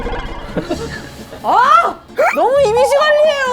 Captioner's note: sobbing